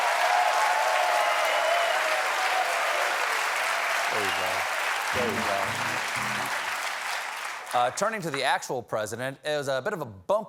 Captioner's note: cheers and applause